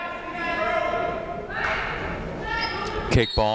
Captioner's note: people shouting in the crowd; whistle tweeting